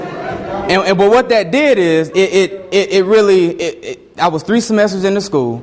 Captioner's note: stammers